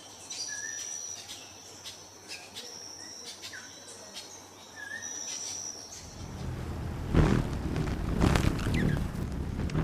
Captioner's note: birds chirping